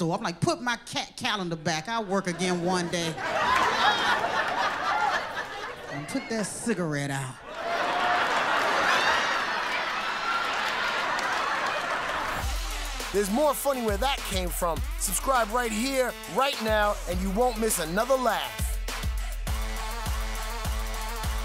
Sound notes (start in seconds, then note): 7.5 laughter; 11.3 cheers and applause